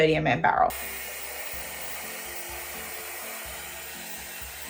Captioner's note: hairdryer whirring